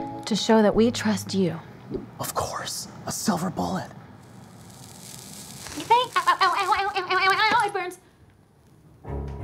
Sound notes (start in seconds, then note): 4.1 Olivia's skin sizzling; 5.8 yells